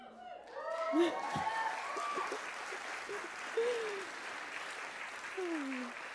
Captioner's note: audience applauding